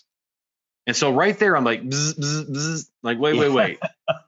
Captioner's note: trills